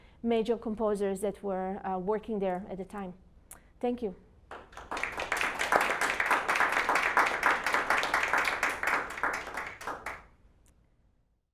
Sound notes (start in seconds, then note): 4.5 audience applause